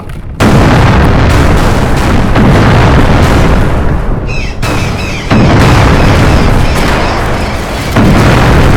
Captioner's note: loud explosions. seagulls panic